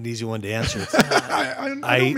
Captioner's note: laughing